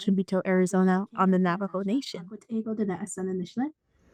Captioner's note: speaking in Native language